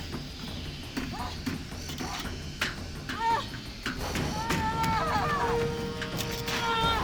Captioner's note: grunting